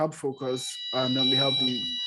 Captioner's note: alarm starts